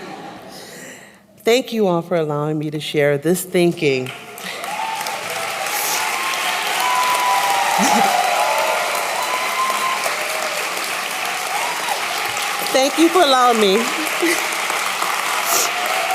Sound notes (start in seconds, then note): 0.0 laughter; 3.9 applause